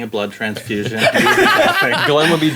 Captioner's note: group laughing